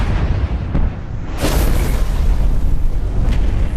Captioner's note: rocket launching